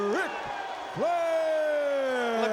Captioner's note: crowd clamoring